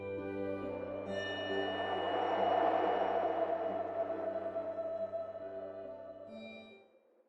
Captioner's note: wind Howling